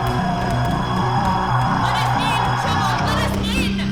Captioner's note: Chemock roars